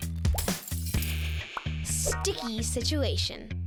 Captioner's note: glass shattering